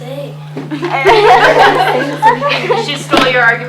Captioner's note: laughter